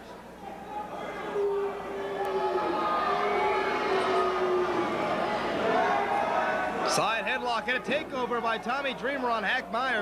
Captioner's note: crowd chatter